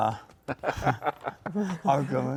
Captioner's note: laughs